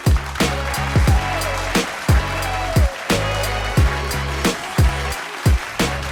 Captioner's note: applause